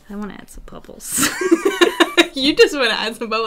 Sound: laughter

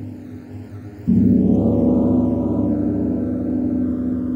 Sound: gong crashes

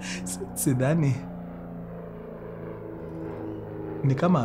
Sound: airplane flying

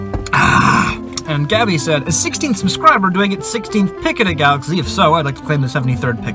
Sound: aaahhh

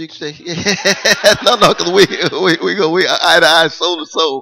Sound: laughter

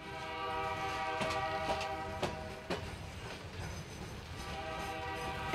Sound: train horn blows

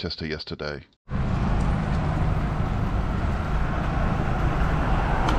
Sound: traffic sounds

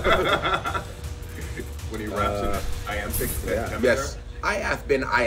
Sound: laugh

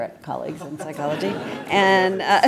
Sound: laugh

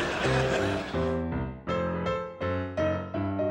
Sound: laughter

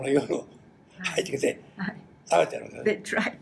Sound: foreign language

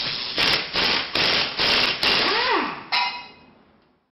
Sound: impact wrench revving

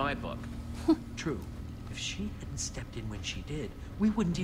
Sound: Sabrina laughs

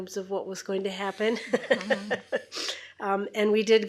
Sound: laughs

